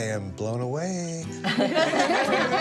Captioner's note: laughter